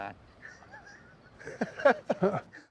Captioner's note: group laughing